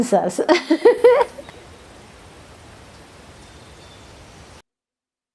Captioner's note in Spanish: Sonidos del campo; Risas